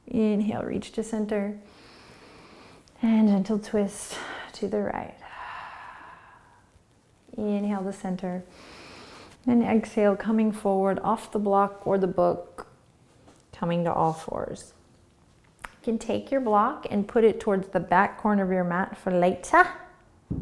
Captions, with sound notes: Inhale, reach to center. (inhaling) And gentle twist to the right. (exhaling) Inhale, the center. And exhale, coming forward off the block or the book. Coming to all fours. You can take your block and put it towards the back corner of your mat for later.